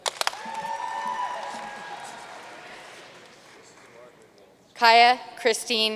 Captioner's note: audience cheering and applauding